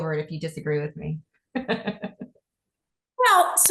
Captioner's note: laughs